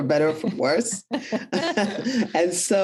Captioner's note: both chuckle